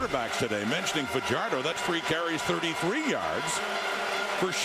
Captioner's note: crowd Noise